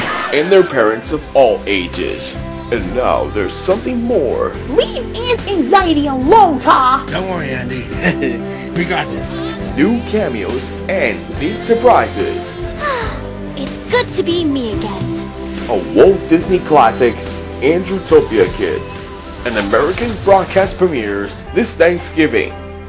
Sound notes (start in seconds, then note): 12.8 sighs